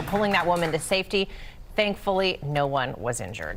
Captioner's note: applause